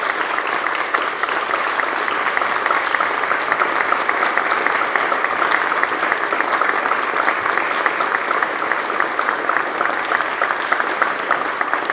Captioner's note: applause